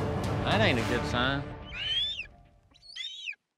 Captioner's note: squawking